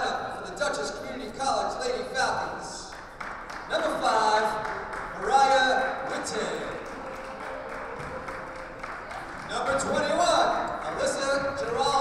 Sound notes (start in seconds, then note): 6.5 clapping